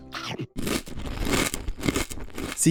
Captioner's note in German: Kau Geräusch